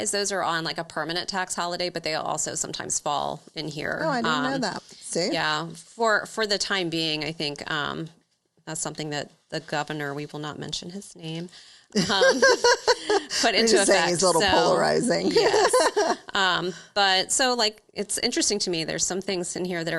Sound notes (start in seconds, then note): 11.9 laughs